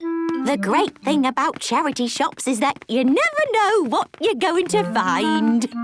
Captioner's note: none